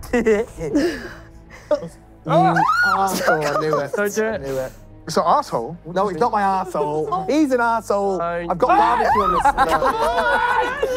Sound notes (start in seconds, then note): 0.1 laughing; 2.4 screaming; 8.7 screaming